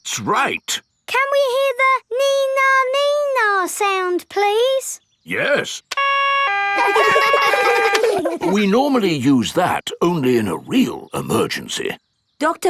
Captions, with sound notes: That's right! Can we hear the "nee-nah, nee-nah" sound, please? -Yes. -(SIREN WAILING) -(KIDS LAUGH) -(SIREN STOPS) We normally use that only in a real emergency.